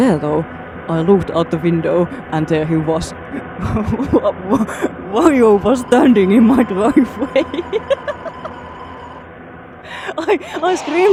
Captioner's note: laughing